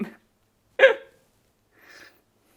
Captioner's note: gasp